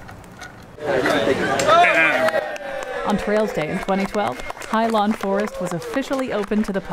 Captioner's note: NATSOT: Applause/Ribbon cutting